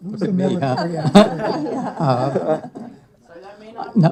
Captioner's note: laughter